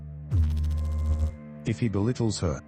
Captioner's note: electrical noise